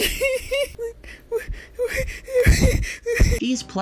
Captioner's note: laughing; panting